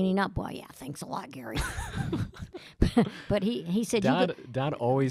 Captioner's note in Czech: Chichotá se